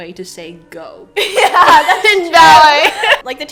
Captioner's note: laughs